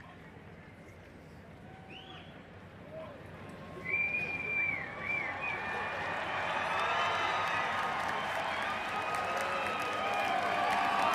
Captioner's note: applause